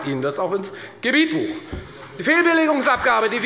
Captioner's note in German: Beifall bei der FDP